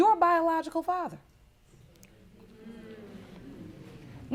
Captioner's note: audience murmuring